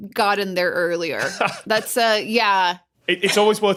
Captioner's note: laughs